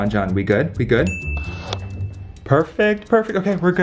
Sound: chime tinkles

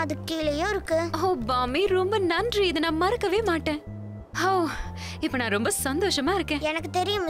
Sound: sighs

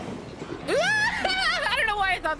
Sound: yell

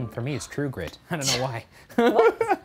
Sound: laughing

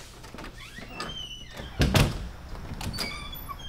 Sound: door slams

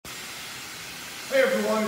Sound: hot comb sizzling

